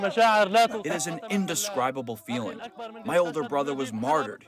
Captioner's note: through translator